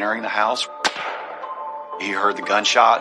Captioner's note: gunshot